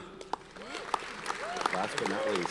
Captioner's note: audience cheers and applauds